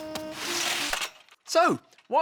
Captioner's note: back patting; curtain scraps